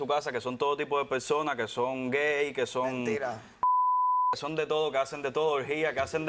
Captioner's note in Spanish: Bip